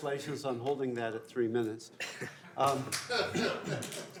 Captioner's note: laughter